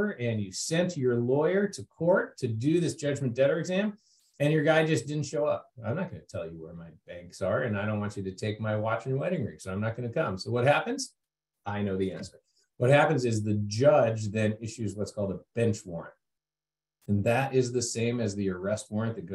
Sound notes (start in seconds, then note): none